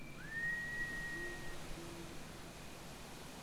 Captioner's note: distant whistle